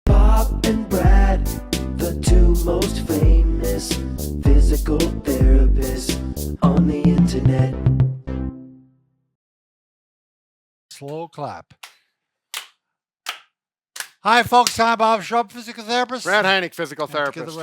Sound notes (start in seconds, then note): 12.1 clapping